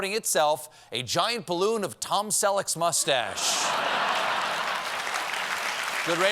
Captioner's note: applause; laughter